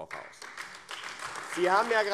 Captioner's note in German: Beifall AfD